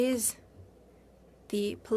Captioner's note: speaking French